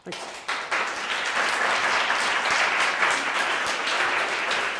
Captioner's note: audience applauds